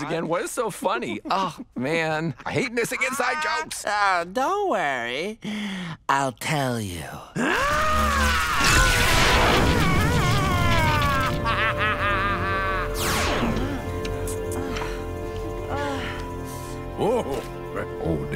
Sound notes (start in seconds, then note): 5.4 inhales; 7.6 yelling; 8.4 energy surging; 11.6 laughing; 13.4 kissing and moaning; 14.1 suspenseful music